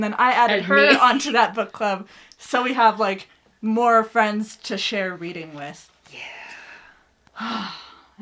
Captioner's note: laughs